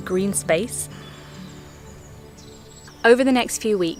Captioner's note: birds chirping